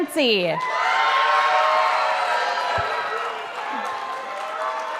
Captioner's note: audience applauding